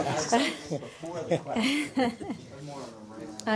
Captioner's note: laughter